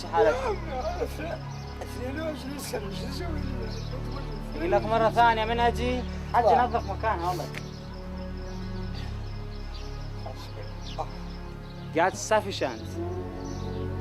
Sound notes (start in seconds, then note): 0.3 man responds in Arabic, while crying; 4.7 interpreter speaks in Arabic